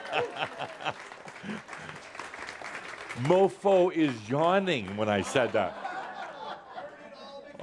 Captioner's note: Adamus laughs as audience continues clapping; more laughter